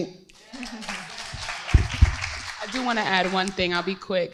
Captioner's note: crowd applauding